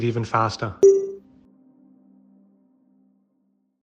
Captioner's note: electronic ding